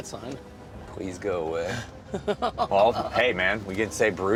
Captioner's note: laughs